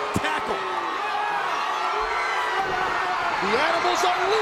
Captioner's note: crowd cheering